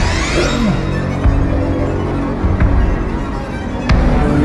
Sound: Vampire snarls

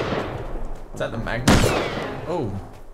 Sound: gunshot

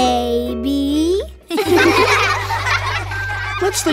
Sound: laughing

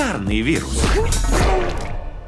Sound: vomiting

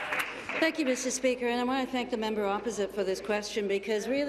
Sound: applause

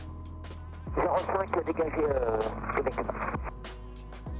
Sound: radio : Runway 05 is cleared

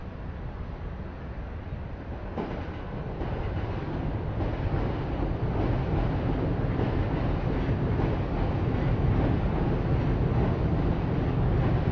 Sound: train Noises

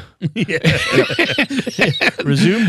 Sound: laughter

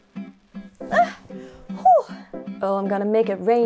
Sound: sigh of relief

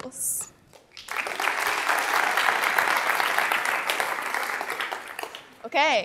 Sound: applause

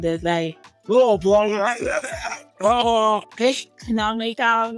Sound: imitates police officer speaking indistinctly

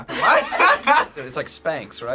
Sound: both laugh

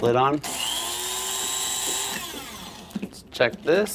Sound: grinder whirring

